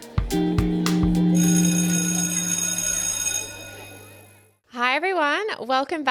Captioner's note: bell ringing